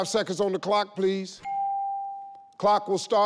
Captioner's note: bell rings